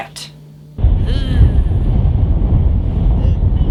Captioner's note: dry Heave